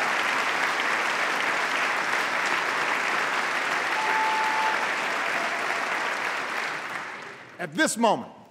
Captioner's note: applause